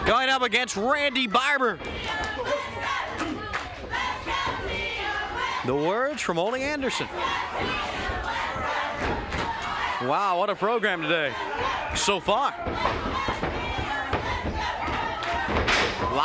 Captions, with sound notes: Going up against Randy Barber. (crowd chants "Let's go, Tim, let's go") The words from Ole Anderson. Wow, what a program today. So far.